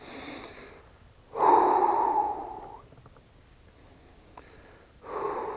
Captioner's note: deep breathing